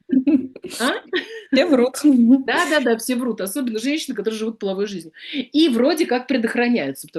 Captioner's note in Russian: смех